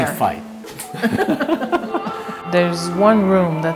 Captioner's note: both laugh